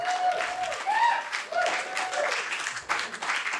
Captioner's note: applause